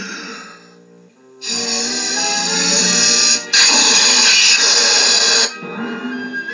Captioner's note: blows